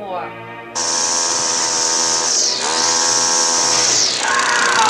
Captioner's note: engine revs